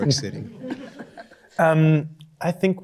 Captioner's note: chuckling